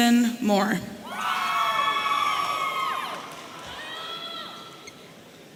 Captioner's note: audience cheering